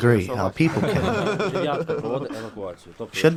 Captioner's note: laughs